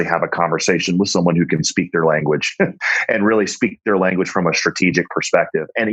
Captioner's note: laughs